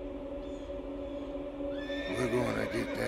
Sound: horse neighing

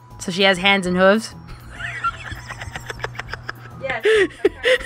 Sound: soft cackling

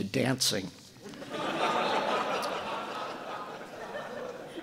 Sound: audience laughing

